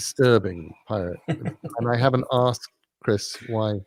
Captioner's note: laugh